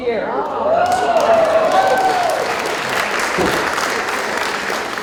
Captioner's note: applause